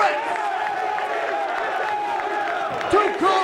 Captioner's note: crowd chattering